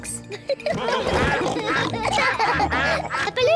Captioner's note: all giggle; quacking